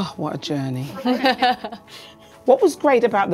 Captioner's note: laughs